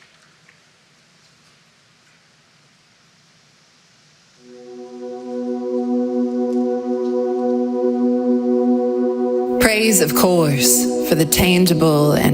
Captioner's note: applause